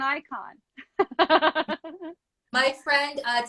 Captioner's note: laughs